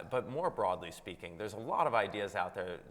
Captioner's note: none